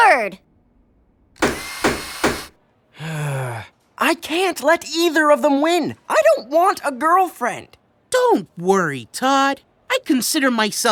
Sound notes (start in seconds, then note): 1.4 power drill whirs, hammer taps; 2.9 sighs